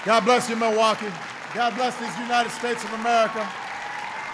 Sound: applause

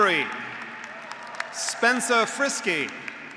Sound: graduates cheering; graduates applauding

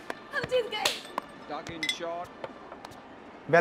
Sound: TV playing; claps

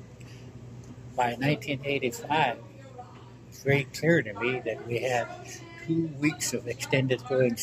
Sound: loud background voices

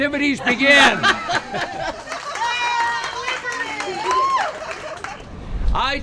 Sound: laughter

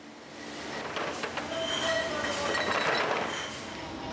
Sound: bottles clinking, indistinct conversation

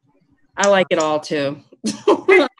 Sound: chuckles

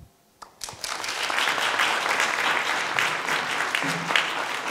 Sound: applause

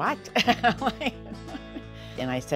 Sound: laughing

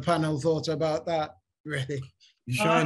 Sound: laughs

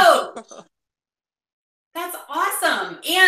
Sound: laughing

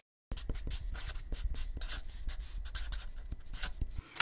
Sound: pen scratchings

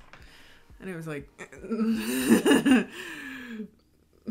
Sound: laughing

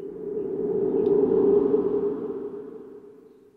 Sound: sound of wind

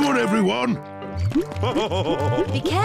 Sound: laughs

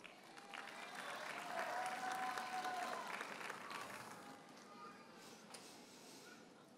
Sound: audience cheers and applauds

